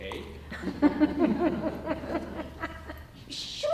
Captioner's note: audience laughing